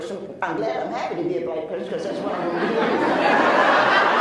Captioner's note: laughs